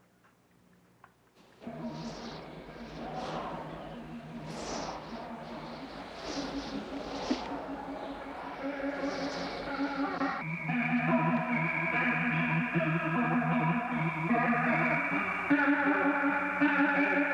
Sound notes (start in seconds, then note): 1.7 wind gusting; 5.5 discordant guitar playing